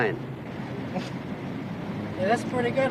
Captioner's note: chuckling